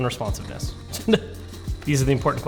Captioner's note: laughs